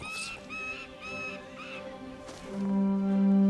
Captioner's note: falcon cries